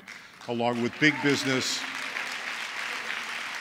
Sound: applause

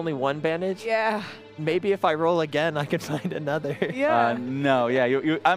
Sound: laughter

